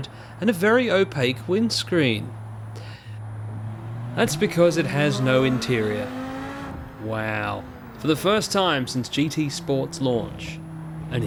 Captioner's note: unenthused